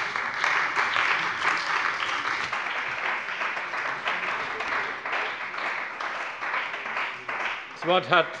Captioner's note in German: Beifall bei dem BÜNDNIS 90/DIE GRÜNEN und der CDU